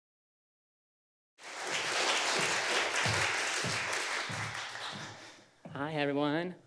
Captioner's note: applause